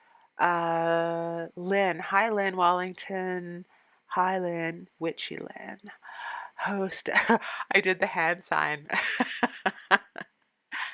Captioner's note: laughing